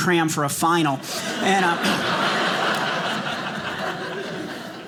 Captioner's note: audience laughing